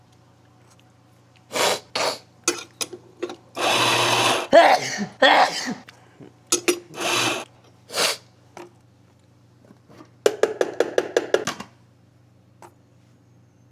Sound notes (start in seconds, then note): 1.4 sniff; 3.6 coughing; 7.8 sniff